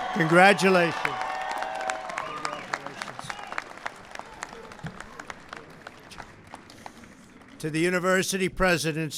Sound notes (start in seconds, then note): 0.0 applause